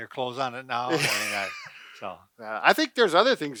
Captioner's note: laughing